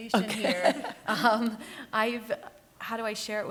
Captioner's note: laughs